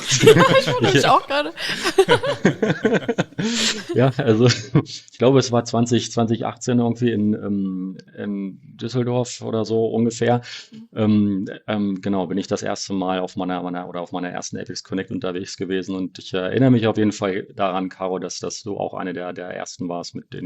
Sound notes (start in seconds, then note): 2.3 laughs